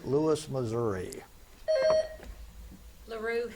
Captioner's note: buzzer beeps